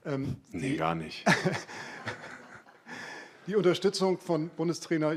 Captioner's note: laughs